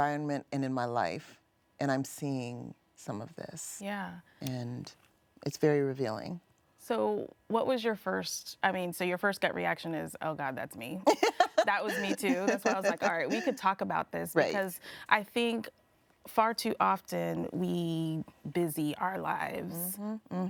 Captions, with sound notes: in my environment and in my life, and I'm seeing some of this, - Yeah. - and it's very revealing. - So what was your first... I mean, so your first gut reaction is, "oh God, that's me." That was me, too. [interviewee laughing] That's why I was like, all right, we could talk about this, because I think far too often, we busy our lives.